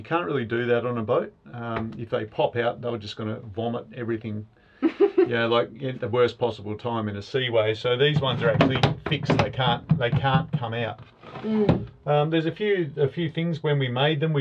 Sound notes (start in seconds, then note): 4.8 laughs